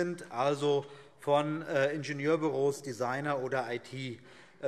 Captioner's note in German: none